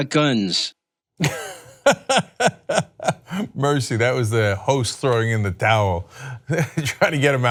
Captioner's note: laughter